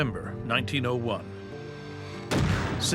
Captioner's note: gunshot